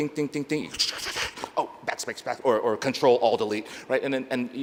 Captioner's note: scratching